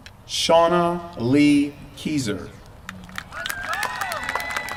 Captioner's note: applause